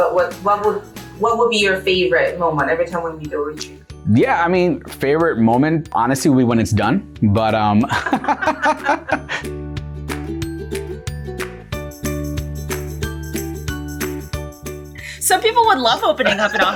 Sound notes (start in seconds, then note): 7.8 both laughing; 9.7 upbeat music